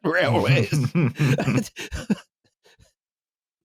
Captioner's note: laughter